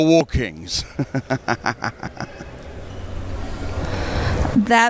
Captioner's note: laughs